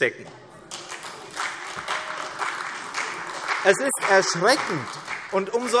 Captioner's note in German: Beifall CDU und vereinzelt AfD